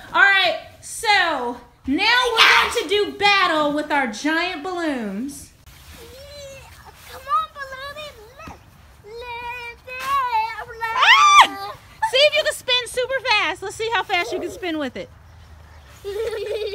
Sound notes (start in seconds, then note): 10.9 screams